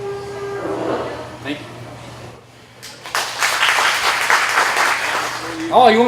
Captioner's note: applause